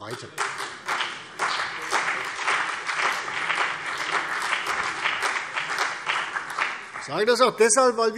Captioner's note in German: Beifall CDU und BÜNDNIS 90/DIE GRÜNEN